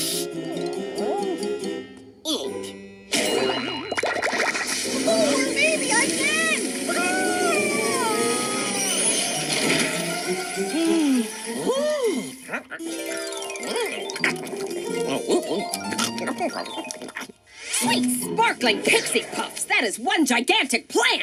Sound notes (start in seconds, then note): 10.4 gasps; 14.8 chattering